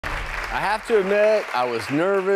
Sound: audience clapping

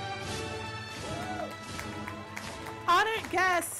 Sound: cheering and applause

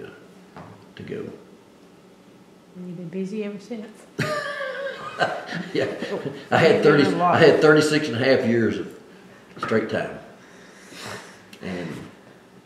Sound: laughs

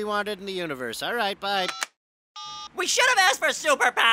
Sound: beeps

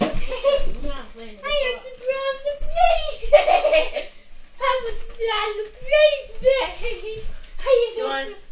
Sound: laughing

